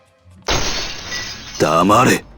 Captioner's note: glass breaking